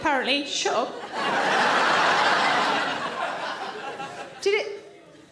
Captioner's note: audience laughs